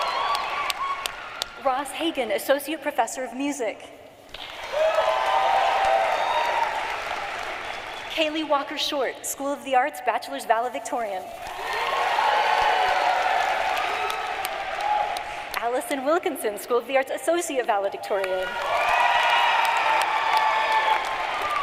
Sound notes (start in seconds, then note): 0.9 cheering and applause; 7.3 applause; 15.9 cheering and applause